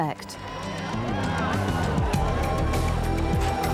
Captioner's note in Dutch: publiek juicht